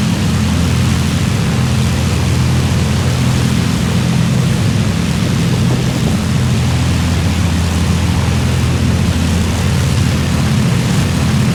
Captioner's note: aircraft engine